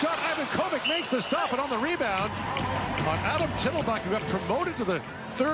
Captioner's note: whistle